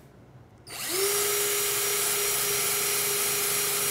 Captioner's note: drill buzzing